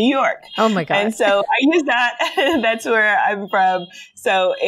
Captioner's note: giggles